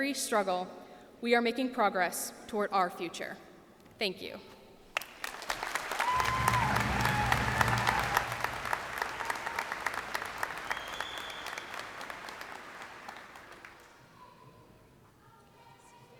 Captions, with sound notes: struggle we are making progress toward our future. Thank you. [cheers and applause]